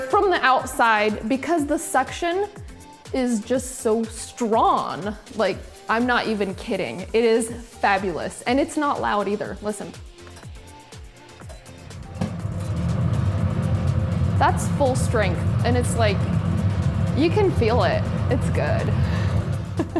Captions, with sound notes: from the outside because the suction is just so strong. Like, I'm not even kidding. It is fabulous and it's not loud either. Listen. (hood whirring) That's full strength and it's like, you can feel it. It's good (laughs).